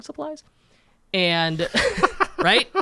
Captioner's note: laughs